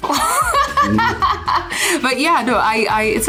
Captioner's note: laughs